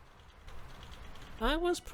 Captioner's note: louder keyboard asmr